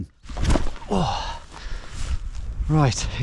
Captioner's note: grunting